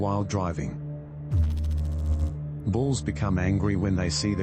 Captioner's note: electrical noise